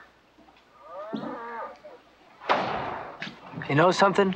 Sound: cow mooing

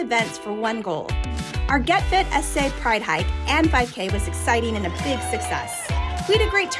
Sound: participants running, crowd cheering

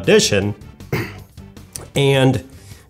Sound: clears throat - may sound icky

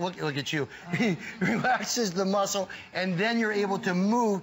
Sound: laughter

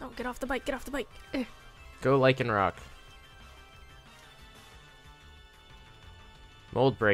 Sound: encounter noise

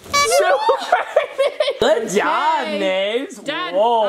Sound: horn beeping; people laughing

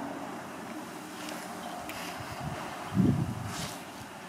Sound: engines roar distantly; wind blows

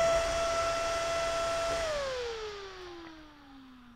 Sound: fan whirring slowing down to off

